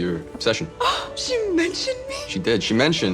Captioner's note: gasps